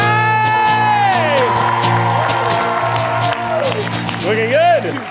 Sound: audience cheering

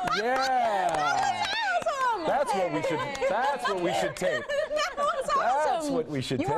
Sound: laughter

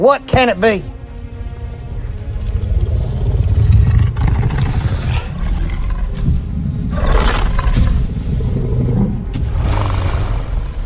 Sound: carnotaurus Low Rumbles

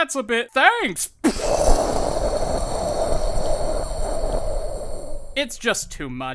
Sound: PCHWOOOOOOooooooo

